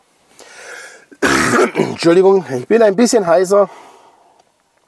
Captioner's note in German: husten